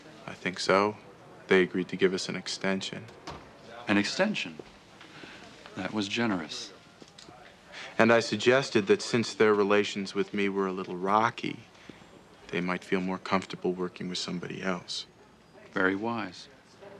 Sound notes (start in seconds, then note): none